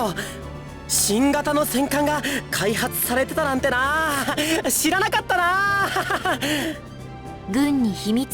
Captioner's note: awkward laugh